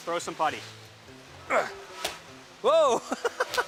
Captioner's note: grunts; laughs